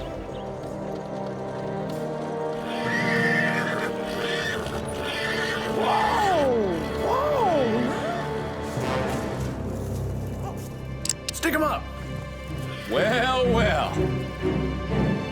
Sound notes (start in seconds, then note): 3.6 horses neigh; 11.0 cocks gun